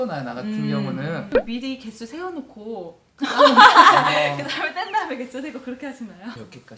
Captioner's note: laughing sound